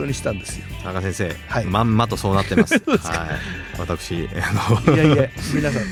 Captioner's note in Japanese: 笑い